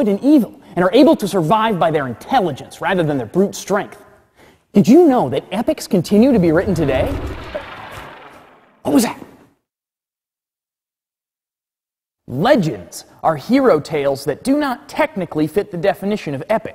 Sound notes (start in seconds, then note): 6.4 distant growling